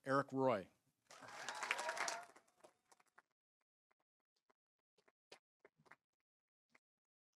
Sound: audience applauding; audience cheering

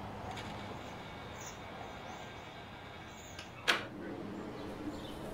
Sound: door creaking

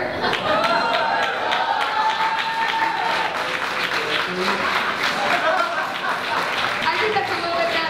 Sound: applause

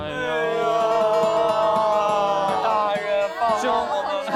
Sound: dramatic whining

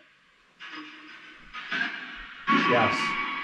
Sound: radio noise hissing

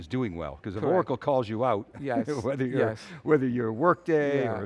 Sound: chuckles

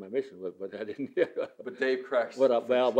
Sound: laughs

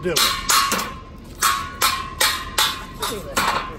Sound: metal clanking

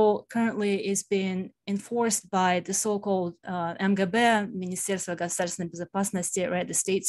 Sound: speaking russian

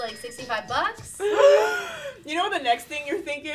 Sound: gasps

